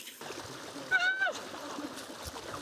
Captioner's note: screams